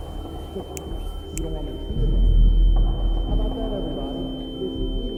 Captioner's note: Justin ears whistling